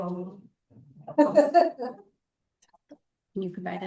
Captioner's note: board member laughing